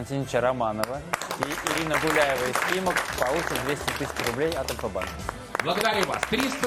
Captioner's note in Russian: аплодисменты; ликование